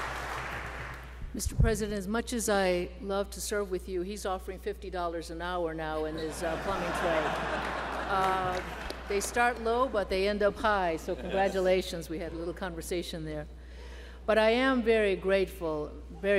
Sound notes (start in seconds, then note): 7.6 laughter